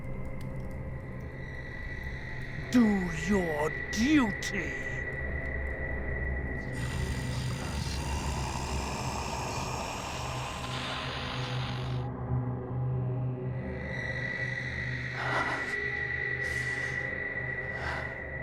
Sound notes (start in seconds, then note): 6.6 growling and static; 7.1 whispering voices